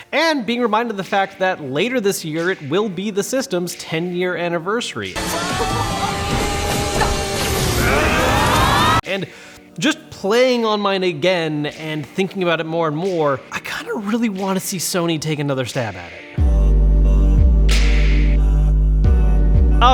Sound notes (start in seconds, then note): 5.4 upbeat music; 8.0 all shout; 16.6 mellow music